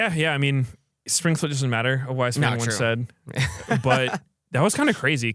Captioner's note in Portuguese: risos